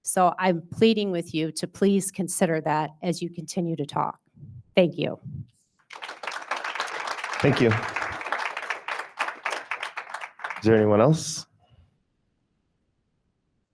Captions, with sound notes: So I'm pleading with you to please consider that as you continue to talk. Thank you. (attendees applauding) >>Thank you. Is there anyone else?